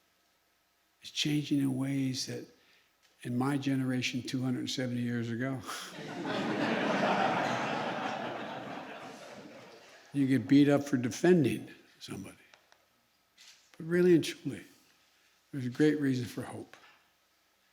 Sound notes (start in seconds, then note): 5.7 laughter